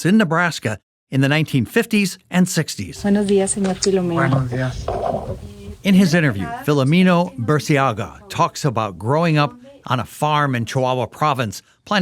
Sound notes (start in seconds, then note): 3.4 speaking in foreign language